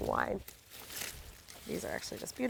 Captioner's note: grape leaves rustling